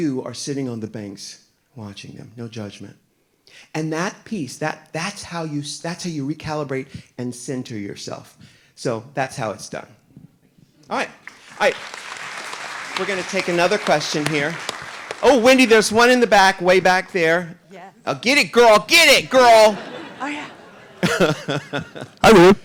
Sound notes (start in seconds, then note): 11.2 audience applauding; 19.4 audience laughing